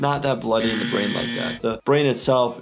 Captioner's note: buzzer buzzes